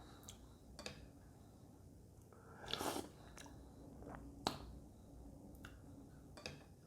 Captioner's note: slurp